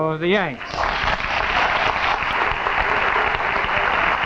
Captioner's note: audience clapping